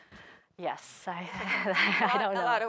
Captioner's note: chuckles